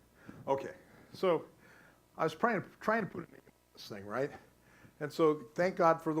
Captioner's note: static